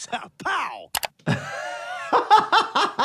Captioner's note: laughs